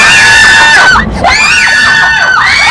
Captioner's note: sudden sound of thunder